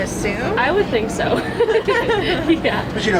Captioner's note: laughs